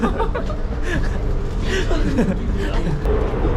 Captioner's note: embarrassed heh